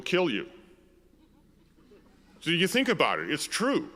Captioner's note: audience laughs